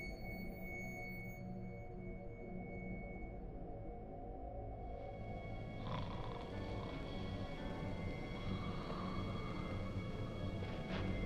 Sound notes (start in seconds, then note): 5.8 man snoring